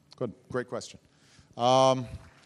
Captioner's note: applause